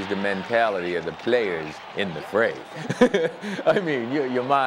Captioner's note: laughs